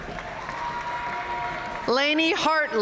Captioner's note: audience cheering and applauding